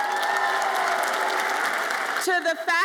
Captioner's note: audience applauds and cheers